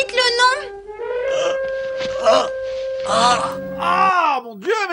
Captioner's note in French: Musique dramatique; derniers râles